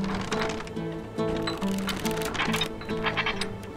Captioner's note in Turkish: Gıcırtı sesi